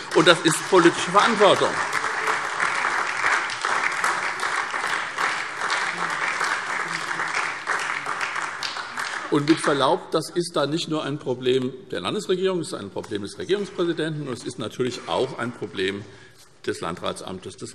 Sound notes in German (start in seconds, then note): 2.0 Beifall SPD